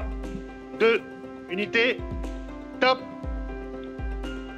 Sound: speaking French

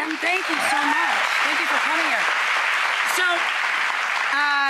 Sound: audience cheers

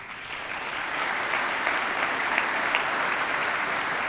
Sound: applause

